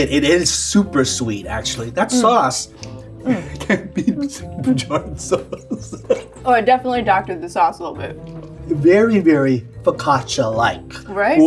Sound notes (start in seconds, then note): 5.7 laughs